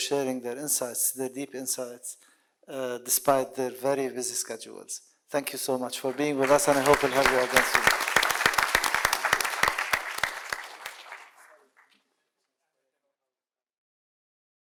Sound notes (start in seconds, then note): 9.1 audience clapping